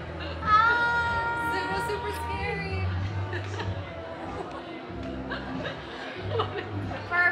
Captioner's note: laughs